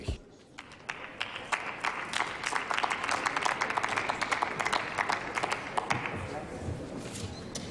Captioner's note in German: Applaus